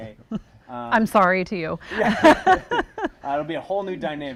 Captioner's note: laughs